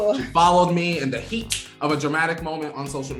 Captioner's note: snaps